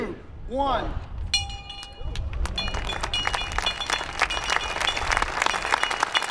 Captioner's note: bell ringing and applause